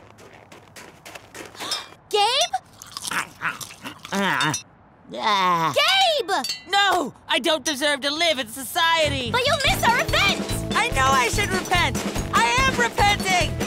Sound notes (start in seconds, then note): 2.8 gasps; 3.5 gnawing; 9.0 upbeat music